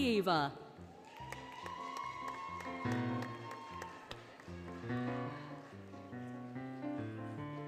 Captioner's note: applause, Cheering, Music